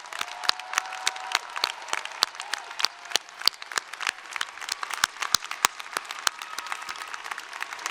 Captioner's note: cheering and applause